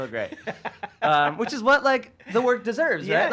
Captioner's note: laughs